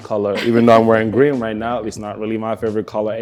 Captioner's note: laughs